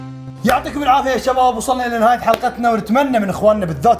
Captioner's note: laughs